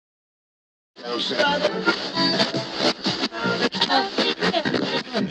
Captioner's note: radio tuning